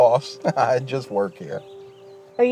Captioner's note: chuckles